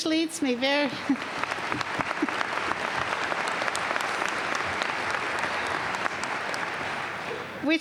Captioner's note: applause